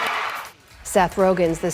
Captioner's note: cheering